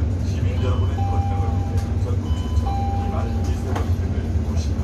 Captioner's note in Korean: 하차벨 소리